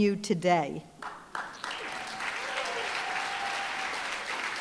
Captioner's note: applause, cheering